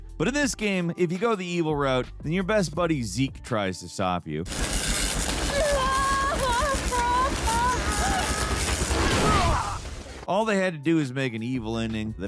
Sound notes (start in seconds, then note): 4.4 electricity crackles; 5.5 companion whimpers